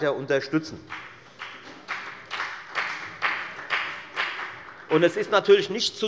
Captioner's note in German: Beifall bei der FDP und bei Abgeordneten der SPD